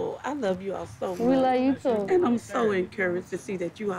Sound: laughing

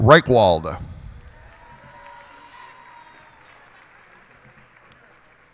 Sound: cheers and applause

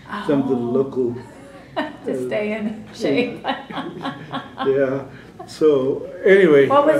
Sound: laughter

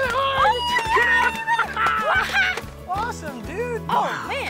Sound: cheers

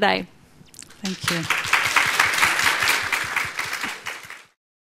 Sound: applause

